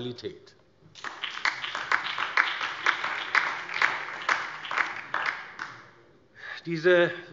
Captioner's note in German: Beifall DIE LINKE, BÜNDNIS 90/DIE GRÜNEN und SPD